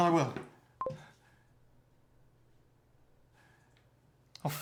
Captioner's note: computer bleeps